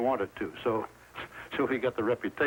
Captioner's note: chuckles